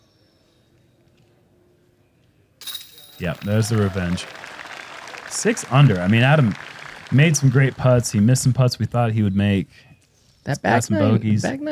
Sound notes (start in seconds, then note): 2.9 applause